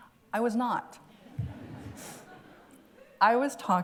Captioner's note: laughter